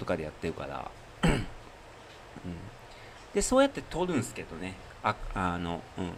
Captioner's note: clears throat